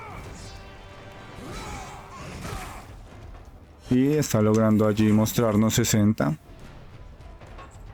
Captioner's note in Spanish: gemido